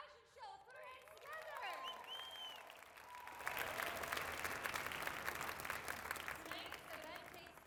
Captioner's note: applause